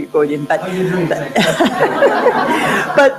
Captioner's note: laugh